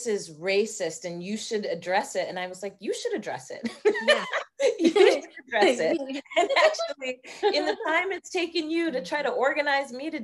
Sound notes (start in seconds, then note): 5.5 both laughing